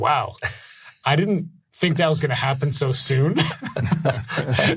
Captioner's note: laughs; laughing